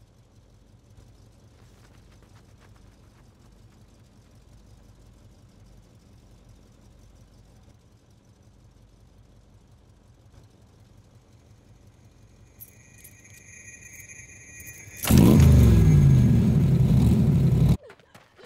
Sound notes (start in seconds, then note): 8.0 car engine noise; 14.0 keys rattling; 15.3 car engine starting; 18.2 Caitlyn panting